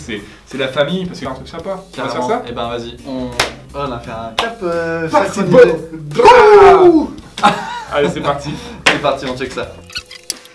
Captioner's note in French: clap synchronisé